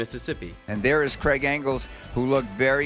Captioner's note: voiceover